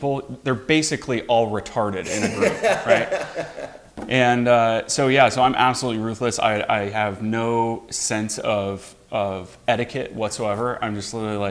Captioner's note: laughs